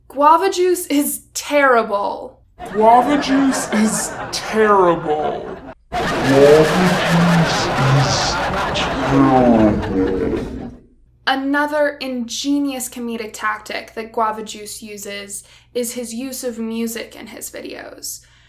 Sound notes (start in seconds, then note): 5.7 even Slower and Lower Pitched